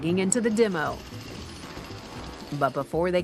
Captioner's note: chainsaw revving